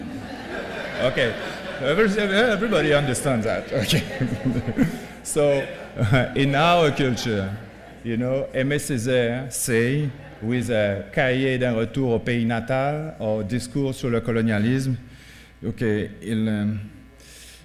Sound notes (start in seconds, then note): 1.3 laughing; 10.1 speaking french